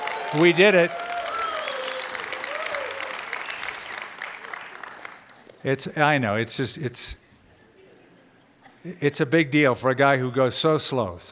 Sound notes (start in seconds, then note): 1.6 cheering & applause